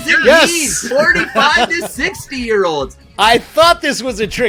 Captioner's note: chuckles